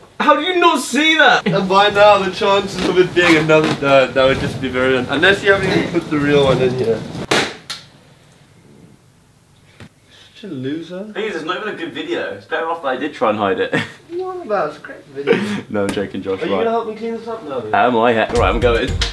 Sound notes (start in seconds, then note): 7.2 balloon pops; 13.7 laughs